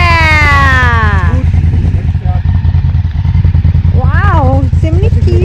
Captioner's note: engine noise